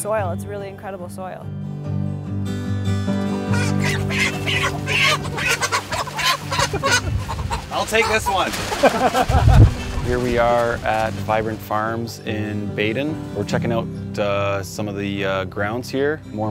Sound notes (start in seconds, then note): 3.4 chickens squawking; 8.7 laughing